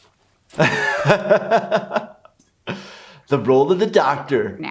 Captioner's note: doctor laughs